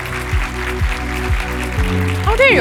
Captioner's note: audience applauding